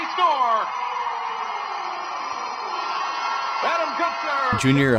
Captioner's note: crowd cheering